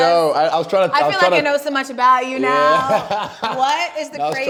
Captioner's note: laughing